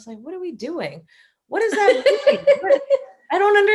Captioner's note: laughter